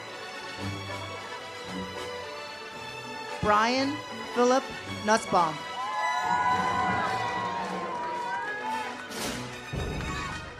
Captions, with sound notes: Brian Philip Nussbaum. (audience cheers) (uplifting music)